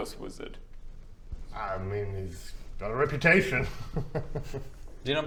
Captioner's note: nervous giggle